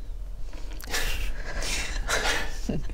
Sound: defeated chuckle

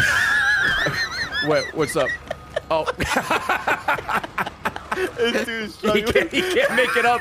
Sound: laughs

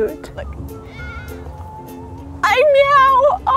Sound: cat meows

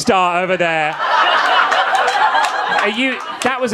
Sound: audience laughing

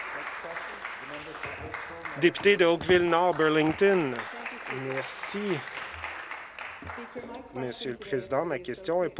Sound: applause

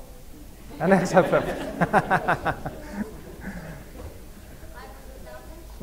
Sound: laughter

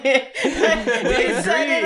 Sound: laughter

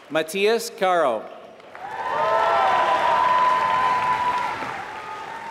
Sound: applause

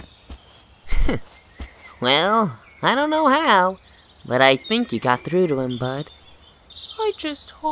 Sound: chuckles

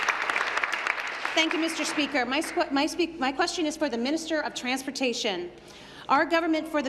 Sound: applause

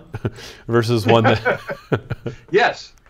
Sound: laughing

